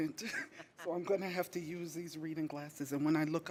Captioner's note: audience chuckling